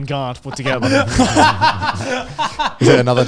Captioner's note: guys laughing